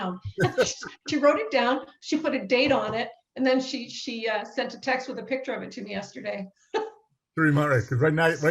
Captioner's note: laughs